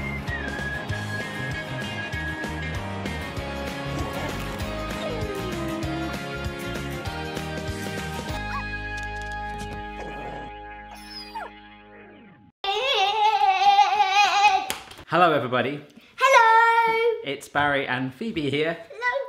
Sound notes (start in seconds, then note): 0.1 cheerful music; 10.0 bark, growl, whine